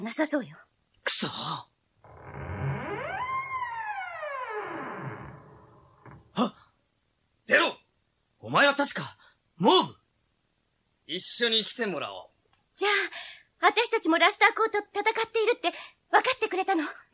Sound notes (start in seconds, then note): 2.0 SFX: door creaks open